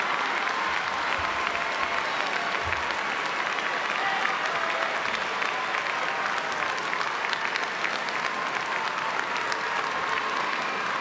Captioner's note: applause